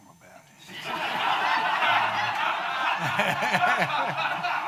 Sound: audience laughing

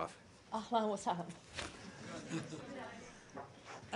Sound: in Arabic; laughter

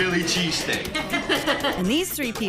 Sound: customers laughing

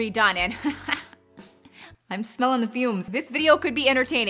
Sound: woman laughing

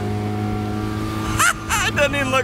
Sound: laughing

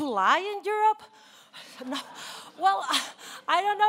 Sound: laughing

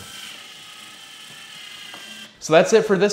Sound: screwdriver whirring

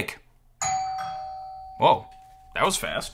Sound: doorbell ringing

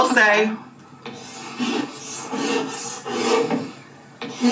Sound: chalk scribbling

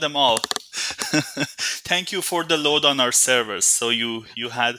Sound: laughing

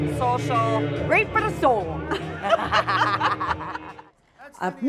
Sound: laughing

